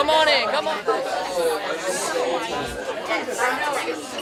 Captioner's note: class chattering